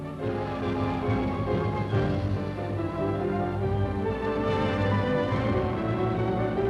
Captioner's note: dramatic music; booming